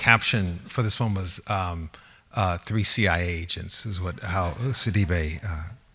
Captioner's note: laughs